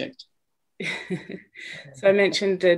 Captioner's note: laughs